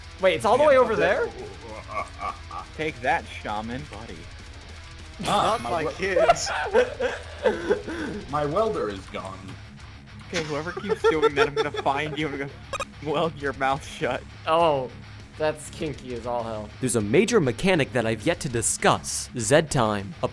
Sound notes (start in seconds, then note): 0.5 evil laugh; 5.2 laughing